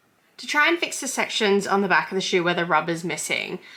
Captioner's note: none